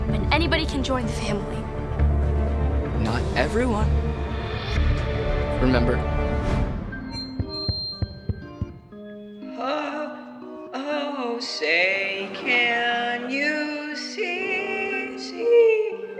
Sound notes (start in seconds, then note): 7.0 mic squeaks